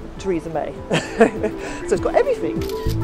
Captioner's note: laughs; camera snaps